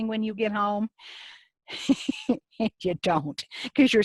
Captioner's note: laughs